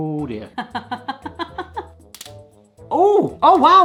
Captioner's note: laughter